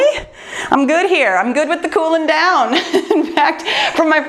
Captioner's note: laughs